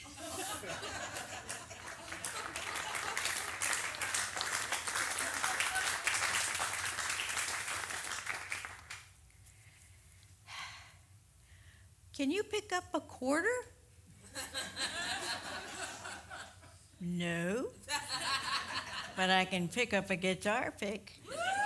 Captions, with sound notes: [audience applause] [sighs] Can you pick up a quarter? [audience laughs] No, but I can pick up a guitar pick.